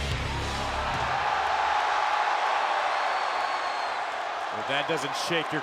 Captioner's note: audience cheers